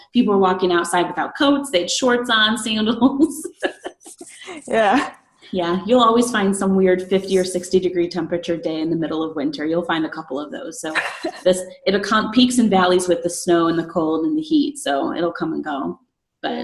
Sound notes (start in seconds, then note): 3.3 laughs